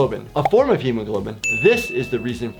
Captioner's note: bell dings